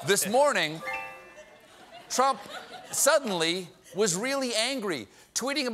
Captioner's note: piano riff; laughter